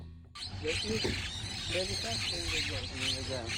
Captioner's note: bird noises